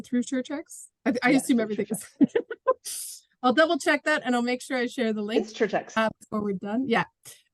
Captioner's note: laughs